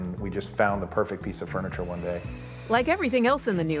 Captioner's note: drill drilling